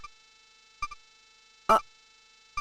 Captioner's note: silence